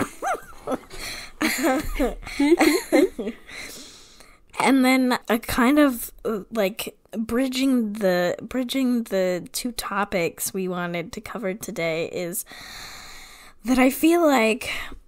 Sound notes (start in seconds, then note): 3.9 laughing